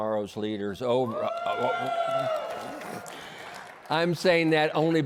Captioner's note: cheering